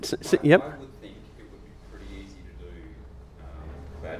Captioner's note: voiceover